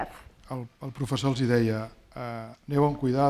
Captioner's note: speaking spanish